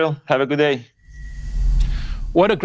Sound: air whooshes

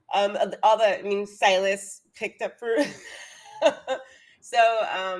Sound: laughs

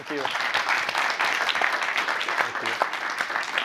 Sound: applause

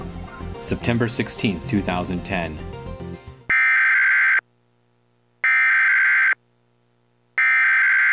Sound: EAS Warning Tone

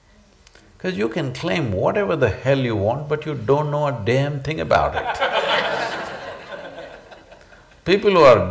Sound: laughter

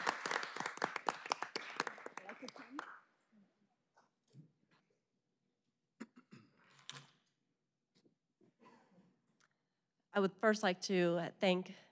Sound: applause

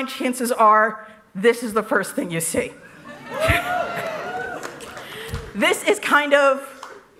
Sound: laughter

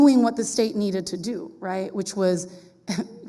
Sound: none

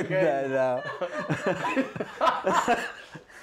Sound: laughter

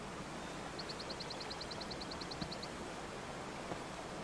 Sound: footsteps

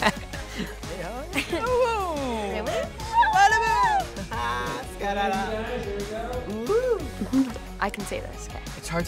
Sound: excited noises

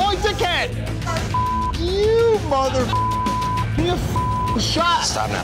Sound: beep

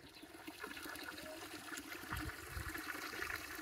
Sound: running water

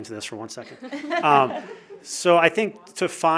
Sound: chuckles

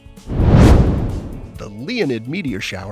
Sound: air whooshing

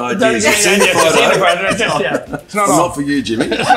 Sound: group laughs

